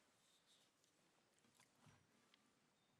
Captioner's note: none